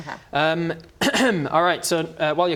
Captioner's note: ahem